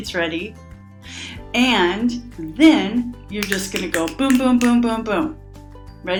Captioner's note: snaps fingers